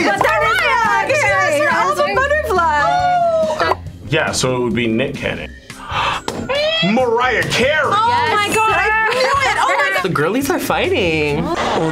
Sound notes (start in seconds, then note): 5.8 gasps loudly; 11.7 foreign language